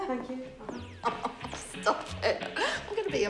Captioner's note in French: rires